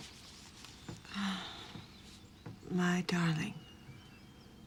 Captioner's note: sighs